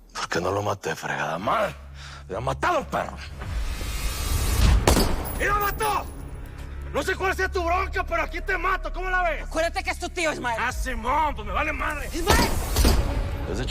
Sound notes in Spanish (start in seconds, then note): 4.6 Disparo